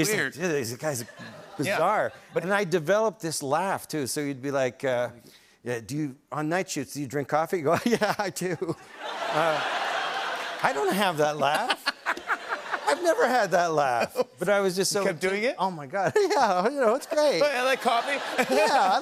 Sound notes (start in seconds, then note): 7.7 laughter; 9.0 laughing; 16.1 laughing; 17.2 giggling